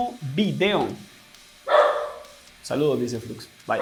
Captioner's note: barks